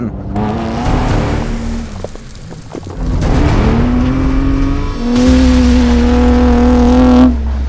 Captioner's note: car roaring; intense dramatic music